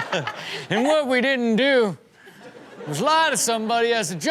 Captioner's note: Chanel and audience laughing; imitating old man